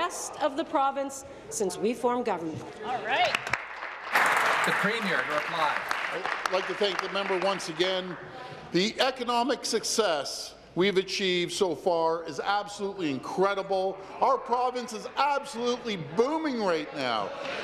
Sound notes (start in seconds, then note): 7.5 applause